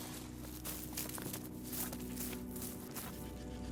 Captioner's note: grass crunching; knife sawing